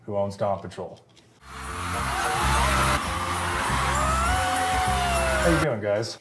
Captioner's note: crowd cheering